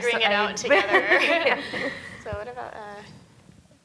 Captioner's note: laughing